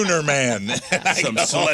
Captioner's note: laughing